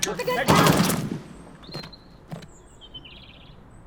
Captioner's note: pulse rifle burst; body hitting dirt